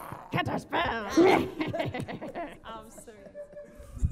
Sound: cackles

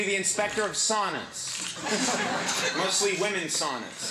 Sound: audience laughing

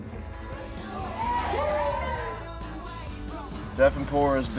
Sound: cheering

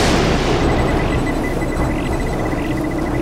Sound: thunder clap; beeping

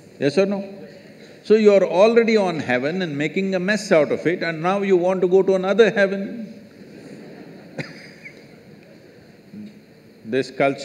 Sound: laughs

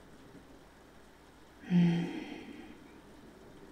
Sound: her chest rises and falls with a contented sigh

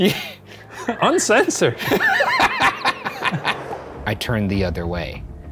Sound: laughing

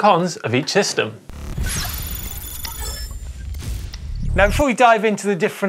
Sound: machine beeping

